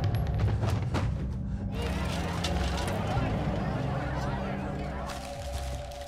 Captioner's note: body clunks; excited chatter; paper rustles